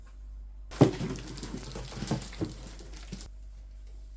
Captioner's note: box noises